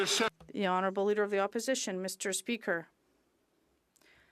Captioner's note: some Applause